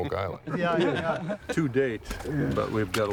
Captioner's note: laughter